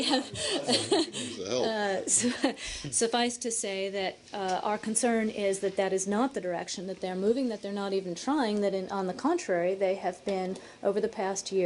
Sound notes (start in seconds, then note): 2.0 laughter